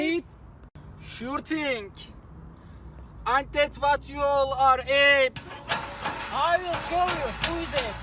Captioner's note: A silence. Then a furious rattling of bars from down the corridor